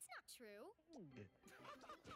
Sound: boys laugh

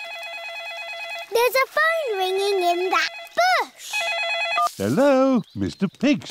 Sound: ringing

